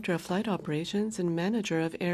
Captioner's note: speaking French